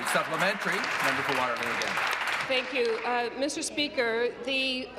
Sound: applause

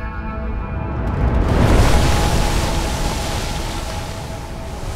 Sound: splash

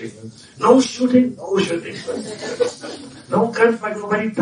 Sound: laughter

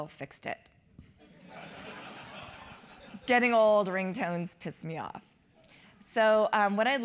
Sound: laugh

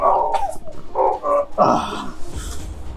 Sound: Soldier Boy grunts

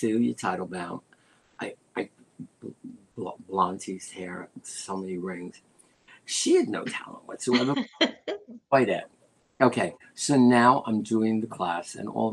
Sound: laughter

